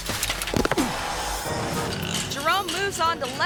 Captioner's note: bike clatters; biker thuds; biker groans